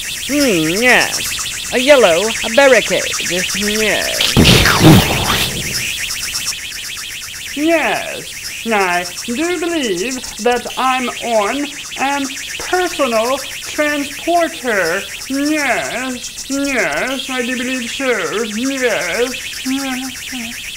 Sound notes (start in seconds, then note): 4.2 explosion; 5.7 rocket engine